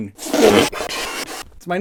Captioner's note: rapid inflation noises